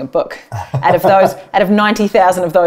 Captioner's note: laughs